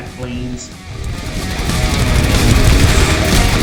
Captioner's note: aircraft Engines ,Gunfire, Flying Sounds